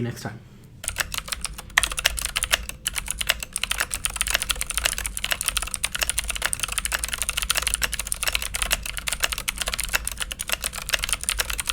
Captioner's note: typing